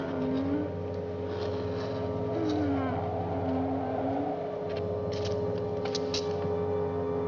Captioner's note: quiet Moaning Resumes